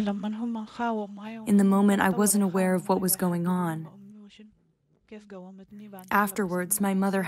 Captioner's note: through translator